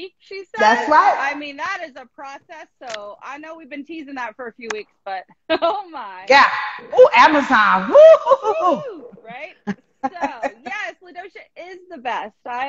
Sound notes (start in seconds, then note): 7.8 laughing; 8.0 bawling